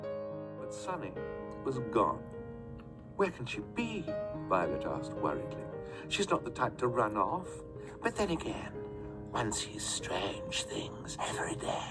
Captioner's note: "The Bad Beginning" audiobook playing in the background